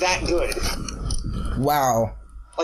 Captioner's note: slurping noises? ._.'